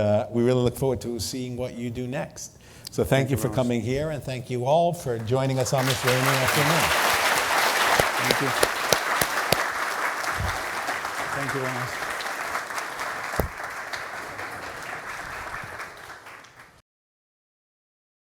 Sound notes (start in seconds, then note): 5.6 laugher